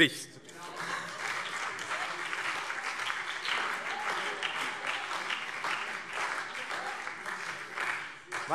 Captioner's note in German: Beifall BÜNDNIS 90/DIE GRÜNEN, SPD und vereinzelt DIE LINKE